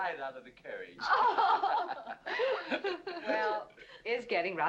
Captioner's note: women laughing